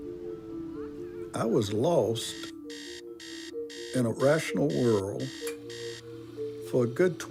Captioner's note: alarm buzzes